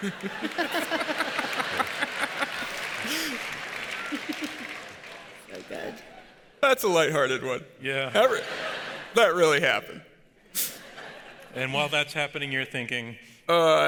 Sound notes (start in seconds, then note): 0.0 audience laughs